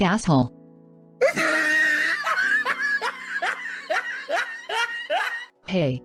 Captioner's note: laughs